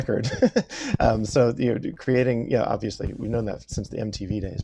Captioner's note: laughs